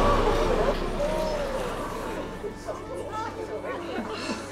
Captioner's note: audience gasps; audience whispering